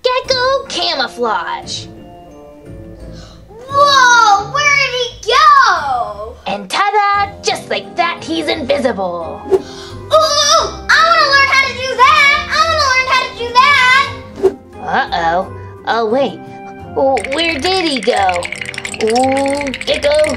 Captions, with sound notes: Gecko camouflage! - Whoa, where did he go? - And ta-da! Just like that, he's invisible. - Ooh! I wanna learn how to do that! I wanna learn how to do that! - Uh-oh, oh wait. Where did he go? (bones shaking) Ooh, Gecko!